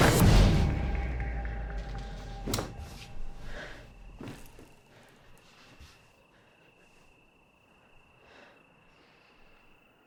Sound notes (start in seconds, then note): 0.0 sheet whooshes; 3.3 Claire breathes heavily